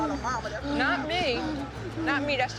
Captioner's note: breathing heavily